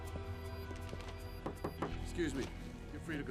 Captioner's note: knuckles rapping